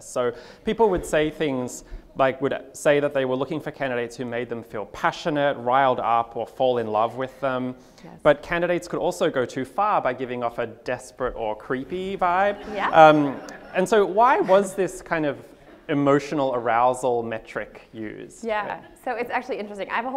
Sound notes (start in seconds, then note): 12.2 audience laughs